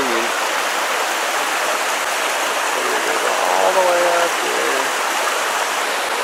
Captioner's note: rushing water